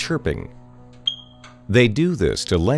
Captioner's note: chirping